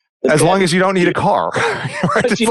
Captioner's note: laughs